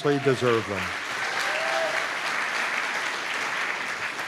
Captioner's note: applause